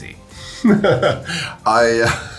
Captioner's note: laughing